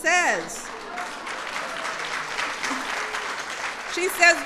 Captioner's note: applause